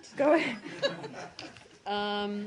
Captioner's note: laughter